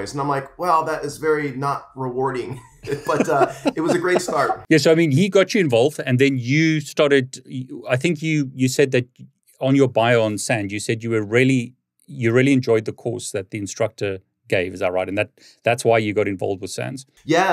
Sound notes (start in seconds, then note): 2.4 laughs